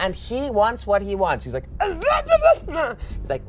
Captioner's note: groans